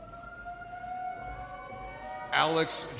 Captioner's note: audience cheers